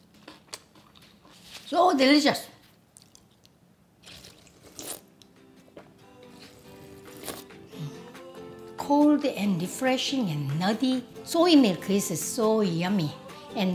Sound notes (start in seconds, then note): 4.0 slurping